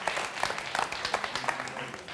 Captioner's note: applause